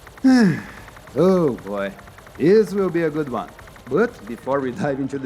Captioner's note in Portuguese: Suspiro